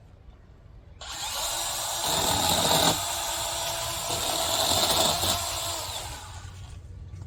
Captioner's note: chainsaw revs